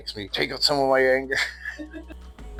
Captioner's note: laughs